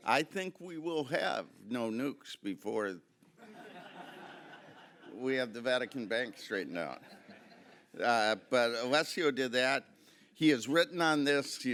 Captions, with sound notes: I think we will have no nukes before-- (audience laughing) We have the Vatican Bank straightened out. But Alessio did that. He has written on this.